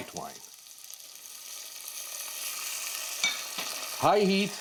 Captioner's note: loud sizzling